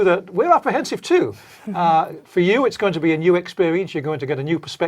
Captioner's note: laugh